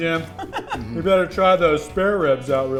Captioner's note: laughing